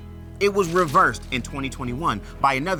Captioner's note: paper rustles